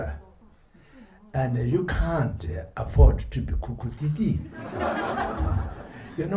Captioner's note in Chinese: 笑聲